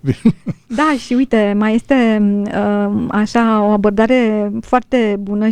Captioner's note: laughter